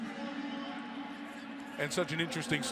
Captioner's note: announcer talking over pa